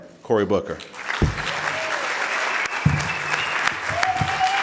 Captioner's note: audience applauding